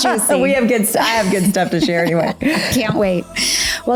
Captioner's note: laughs